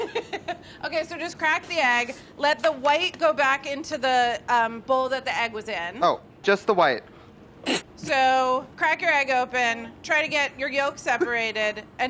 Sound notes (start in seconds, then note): 0.4 laughs; 7.4 laughs